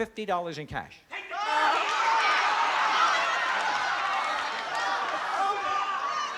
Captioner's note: crowd exclaiming